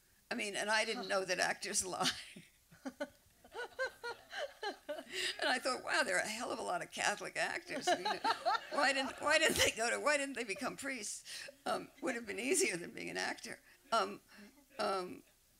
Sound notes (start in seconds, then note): 3.4 laughter; 7.8 laughter